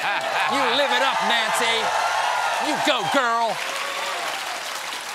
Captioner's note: laughter; cheers